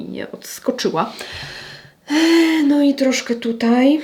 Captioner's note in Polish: wciągnięcie powietrza; westchnienie